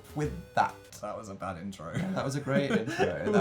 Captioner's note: laughing